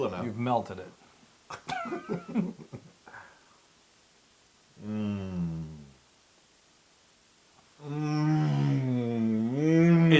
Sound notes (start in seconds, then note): 1.6 laugh